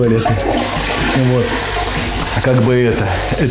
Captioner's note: звук смыва